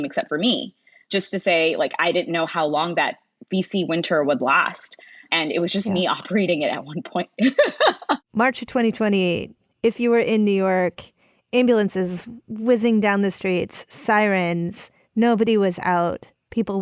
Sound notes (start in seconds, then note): 7.4 laughs